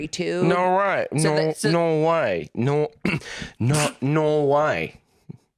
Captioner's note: clears throat